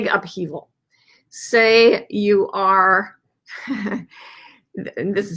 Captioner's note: laughs sarcastically